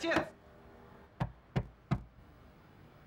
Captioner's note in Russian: Стук в дверь